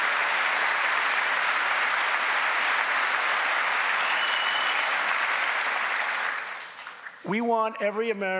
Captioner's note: applause